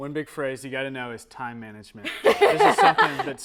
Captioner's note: laughter